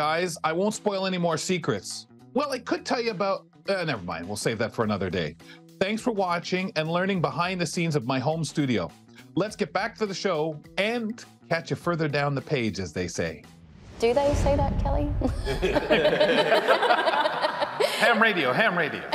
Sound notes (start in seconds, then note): 13.6 transition whooshing; 15.3 audience laughing; 15.3 hosts laughing